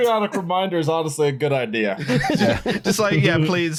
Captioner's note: laughter